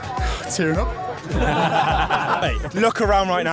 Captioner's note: laughs